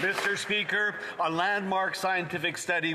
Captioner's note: some Applause